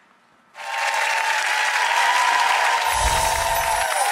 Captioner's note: applauding